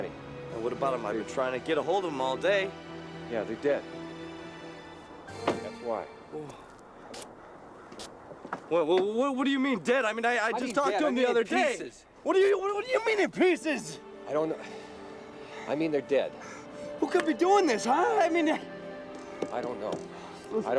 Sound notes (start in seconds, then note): 6.5 dramatic music; 7.4 wind howling